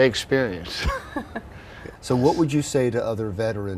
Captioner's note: laughing together